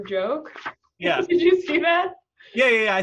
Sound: laughing

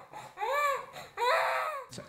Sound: vocalises

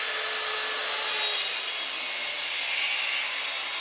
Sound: screeching sawing noise

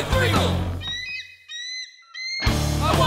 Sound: eagle call, eagle call, eagle call

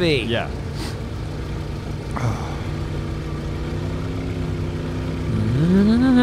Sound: humming song

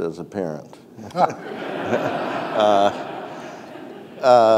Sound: audience laughing

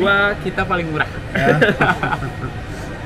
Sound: laughing

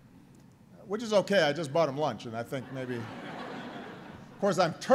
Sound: laughter

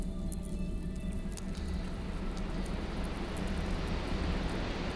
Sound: fire cracking

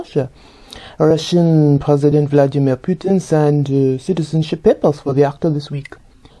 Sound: Russian

